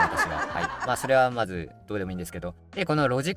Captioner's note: laughs